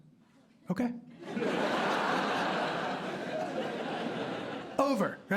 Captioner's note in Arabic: ضحك